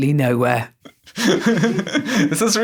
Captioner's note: laughs